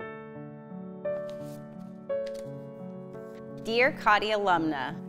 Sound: paper rustling

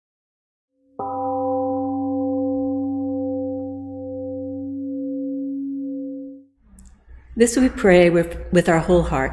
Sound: temple gong rings and fades

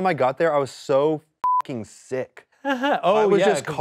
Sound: beep; laughs

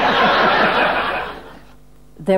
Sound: audience laughing

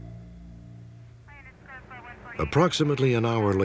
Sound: police chatter on walkie talkie

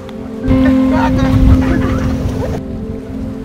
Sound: kids laughing

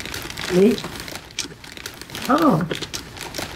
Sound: paper crinkling

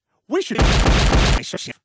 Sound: violent smashing noises

